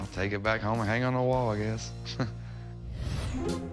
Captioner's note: chuckles